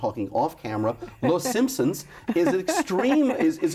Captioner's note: laughs